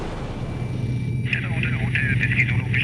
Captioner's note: high-pitched whir